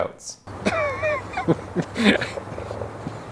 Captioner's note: laughing